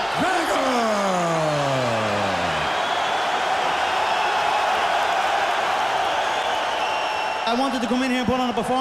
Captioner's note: raucous cheering